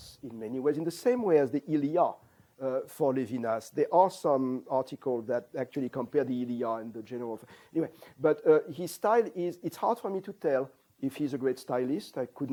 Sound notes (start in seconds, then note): 7.0 non-english